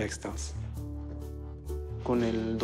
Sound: speaking spanish

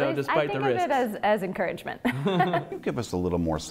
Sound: laughter

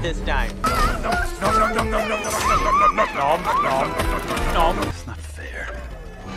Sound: screams about sharks

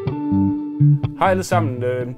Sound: speaking in Danish

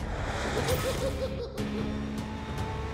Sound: clown giggles

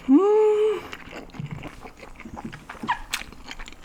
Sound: vacuuming noodles

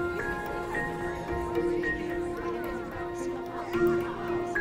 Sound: crowd murmuring

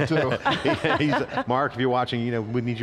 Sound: laughter

